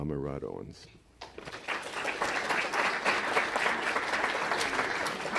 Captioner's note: applause